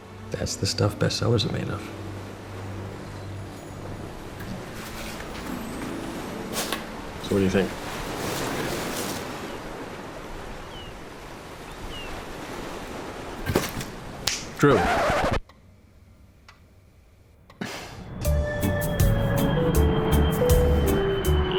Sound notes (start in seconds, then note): 2.6 ocean waves rolling in; 10.0 seagulls and ocean waves rolling in; 13.9 snaps fingers; 14.6 record scratching sound